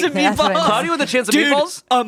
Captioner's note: laughing